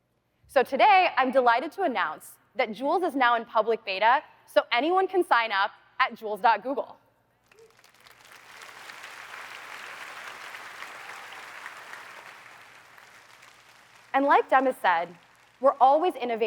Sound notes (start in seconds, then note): 7.4 applause